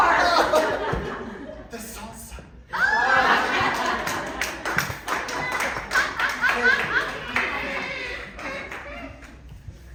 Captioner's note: applause